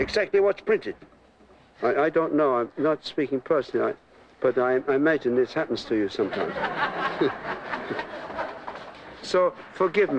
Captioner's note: laughter from the orchestra